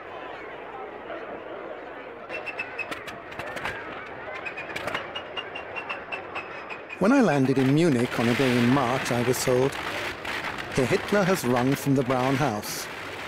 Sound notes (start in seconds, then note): 2.2 crowd chattering; 2.2 plane engine chirping